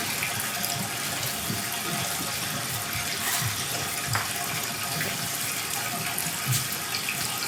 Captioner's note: water trickling continues